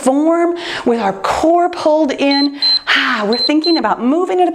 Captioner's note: timer beeps